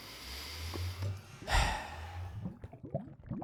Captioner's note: sigh